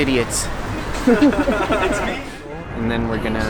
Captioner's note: laughs